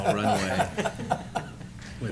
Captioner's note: laughing